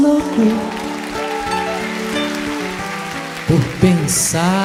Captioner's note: audience applauds